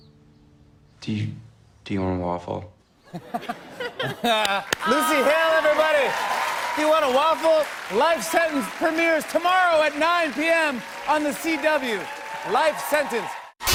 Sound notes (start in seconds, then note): 3.0 laughter; 4.8 cheers and applause